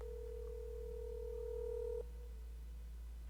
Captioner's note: phone rings